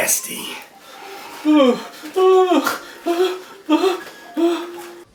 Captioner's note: Larry whimpering